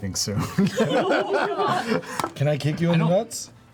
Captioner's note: laughter